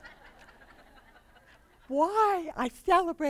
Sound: laughter

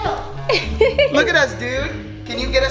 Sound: laughter

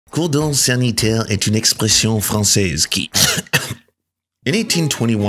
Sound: coughs

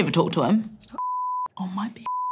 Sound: whispering

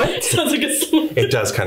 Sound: laughs

